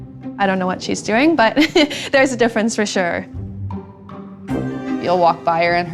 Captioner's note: laugh